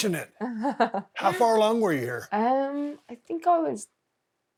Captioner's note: Becky laughing